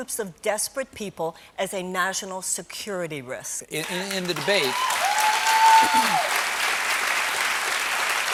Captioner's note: cheers and applause